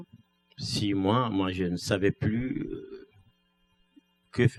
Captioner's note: speaking french